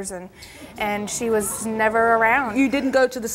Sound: audience gasps

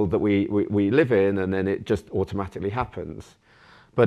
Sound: none

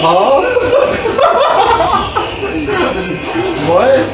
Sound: laugh

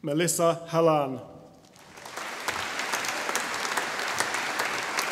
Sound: audience applauding

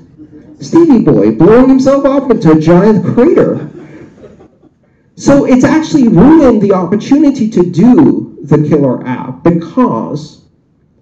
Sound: laughter

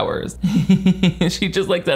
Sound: chuckling

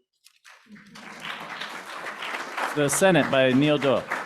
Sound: applause

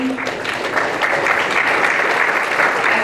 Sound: applause

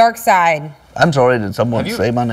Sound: imitating obi-wan kenobi

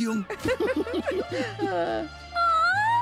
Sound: laughing

